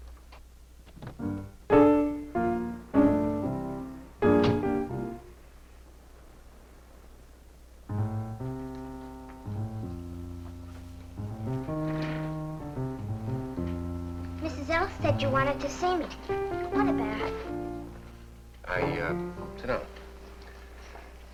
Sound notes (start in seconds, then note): 1.2 light upbeat music playing; 4.2 fridge door closing; 7.5 playing lightly on piano